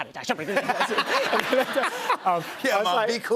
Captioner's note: laughter